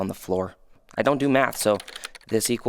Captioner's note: computer keys clicking